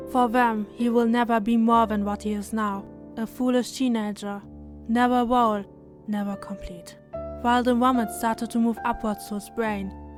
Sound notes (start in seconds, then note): none